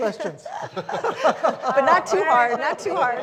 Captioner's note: all laughing